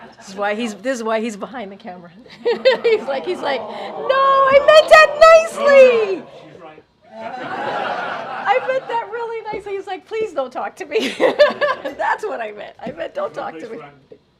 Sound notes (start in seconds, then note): 2.3 laughs; 7.1 laughter; 11.5 laughs